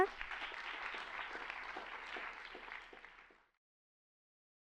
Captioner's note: applause